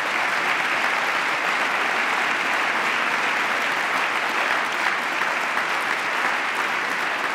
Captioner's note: applause